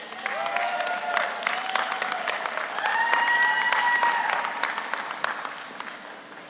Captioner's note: audience applauds; audience cheers